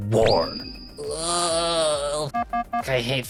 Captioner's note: groaning